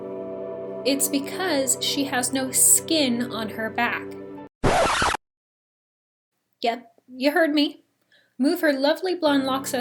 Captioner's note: rocord scratch